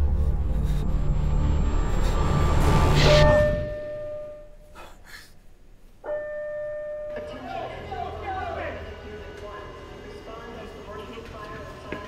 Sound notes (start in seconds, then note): 0.0 heavy breathing; 3.0 bell chimes loudly